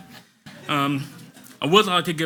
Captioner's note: audience laughs